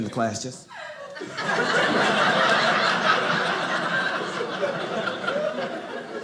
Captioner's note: audience laughing